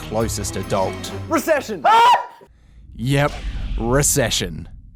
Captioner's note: screams